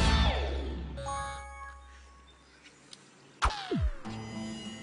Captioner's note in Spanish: Alerta de mensaje